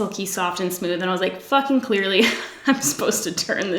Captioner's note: laughs